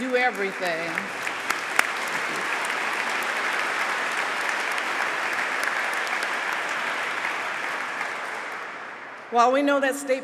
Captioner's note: applause